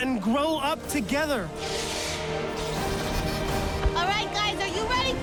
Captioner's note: pulsing